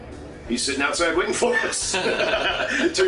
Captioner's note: laughter